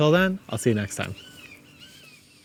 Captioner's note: birds chirping